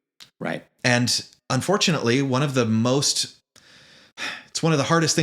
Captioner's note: sigh